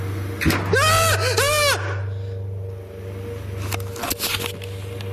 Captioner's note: bang followed by screaming